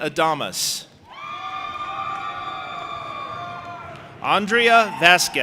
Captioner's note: audience applauding and cheering